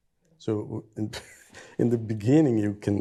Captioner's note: chuckles